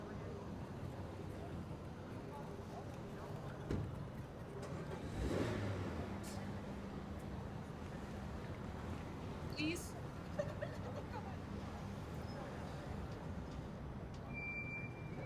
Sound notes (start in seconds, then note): 4.5 door shutting; 4.7 engine starting